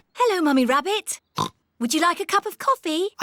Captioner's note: oinks